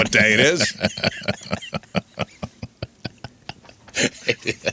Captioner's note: laughing